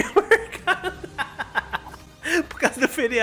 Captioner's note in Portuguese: risos